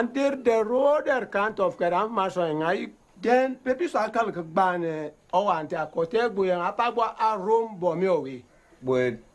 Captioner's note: foreign Language